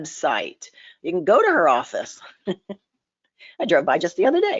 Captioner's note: laughs